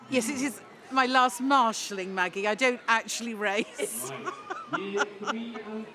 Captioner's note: laughs